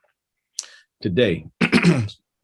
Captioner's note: clears throat